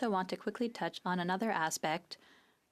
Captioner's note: speaking FRENCH